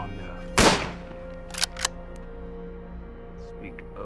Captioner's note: cocks rifle; fires shot